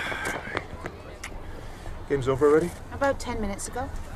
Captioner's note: sighing